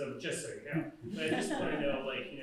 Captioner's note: laughter